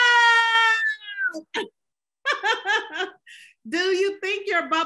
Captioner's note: laughs